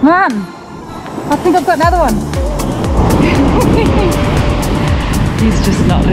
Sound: laughs

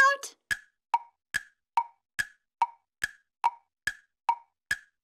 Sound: clock ticking

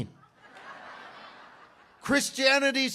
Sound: congregation laughs

